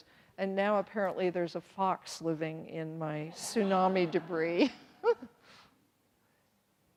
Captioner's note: everyone laughs